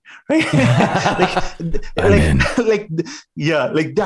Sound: whispering

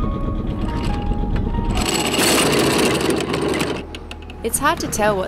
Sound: anchor grinding

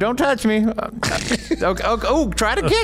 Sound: laughs

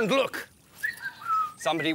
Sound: whistling!

